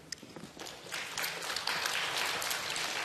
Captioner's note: applause